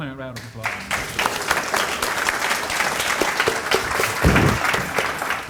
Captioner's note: audience applauding